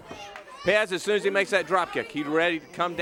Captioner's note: crowd chatter